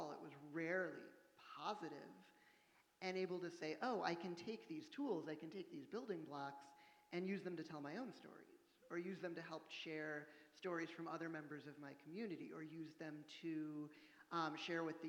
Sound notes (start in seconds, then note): none